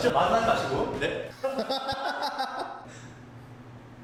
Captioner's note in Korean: 웃음소리